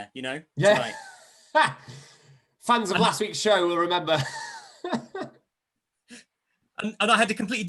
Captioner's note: laughter